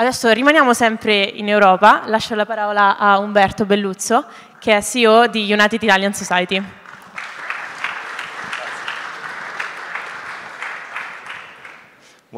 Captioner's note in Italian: Applauso